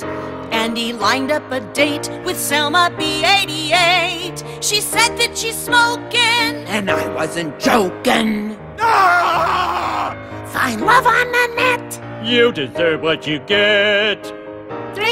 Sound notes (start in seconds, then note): 8.8 screams